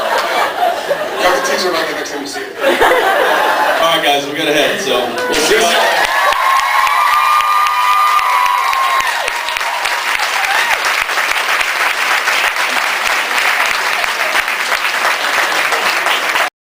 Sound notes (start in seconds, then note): 2.5 laughs; 5.2 screams, cheers, applauds; 11.2 applauds